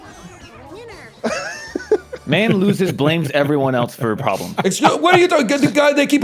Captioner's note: chuckles; post-laugh chuckle; laughs